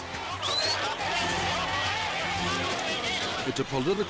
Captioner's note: crowd cheering and whistling